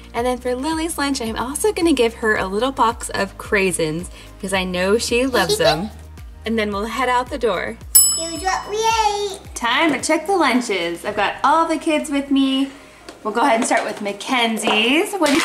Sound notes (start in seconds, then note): 5.3 giggling